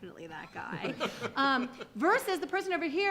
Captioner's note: laughter